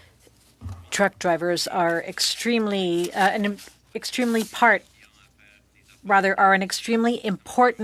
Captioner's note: speaking French